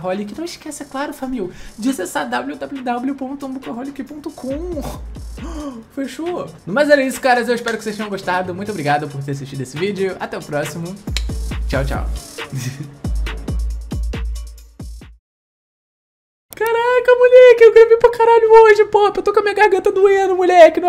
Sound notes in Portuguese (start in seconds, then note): 11.1 barulho de língua estralando; 12.5 riso